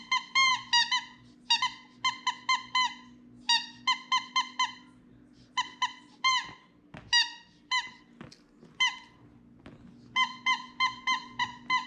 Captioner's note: squeaky toy sound